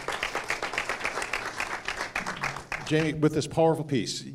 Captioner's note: applause